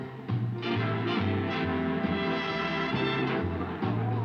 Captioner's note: people murmuring